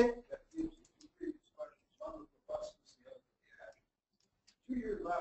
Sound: participant faintly speaks until time mark: 1:16:53

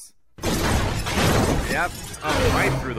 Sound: crash

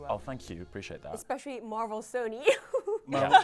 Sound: laughs

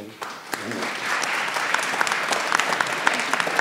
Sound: applause

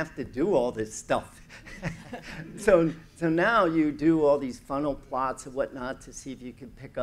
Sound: laughs

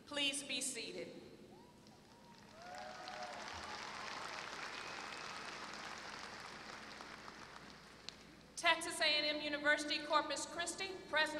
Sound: applause

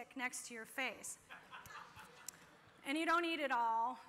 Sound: imitating chewing

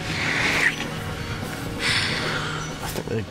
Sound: both gasp

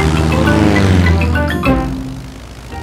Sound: plane engine revving

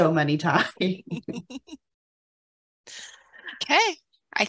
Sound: chuckles

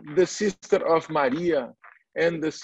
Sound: foreign language

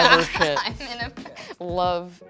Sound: laughing

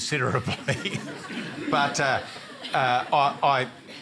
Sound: laughter

